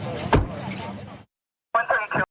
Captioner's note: car door closing